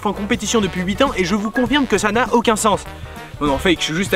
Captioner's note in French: Son de notification